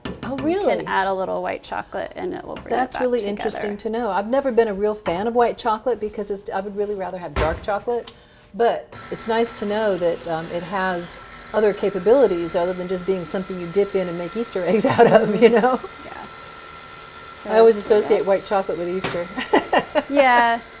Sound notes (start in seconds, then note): 16.6 whirring; 19.3 laughs